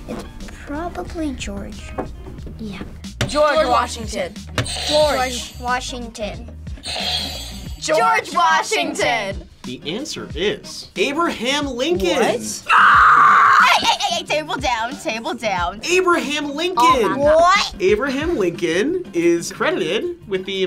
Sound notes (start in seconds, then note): 4.6 buzzer rings; 6.8 buzzer rings; 12.6 screams